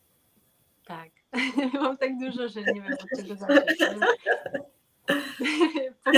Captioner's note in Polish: śmiech